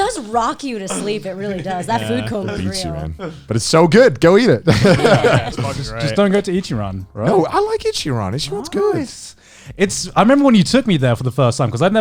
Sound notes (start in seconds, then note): 4.6 all laughing